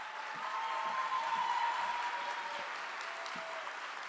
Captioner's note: cheering